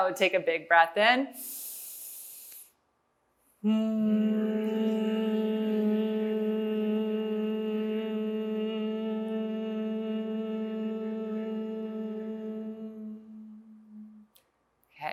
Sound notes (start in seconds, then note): 1.4 breathing in; 3.6 humming